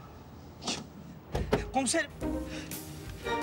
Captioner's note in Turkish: Bagaj kapağı açma sesi